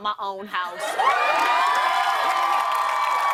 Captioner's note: cheers and applause